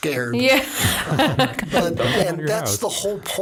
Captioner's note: laughing